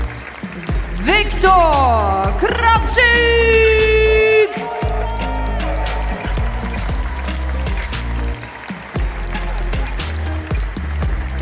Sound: applause; applause

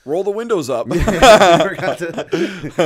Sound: chuckle

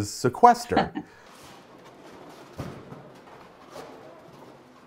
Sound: laughs

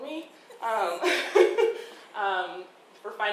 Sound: laughing

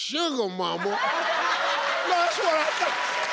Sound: crowd laughs

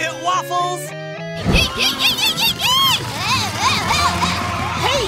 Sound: screaming

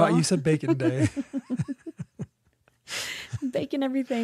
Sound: laughs

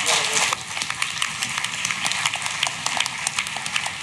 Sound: clapping

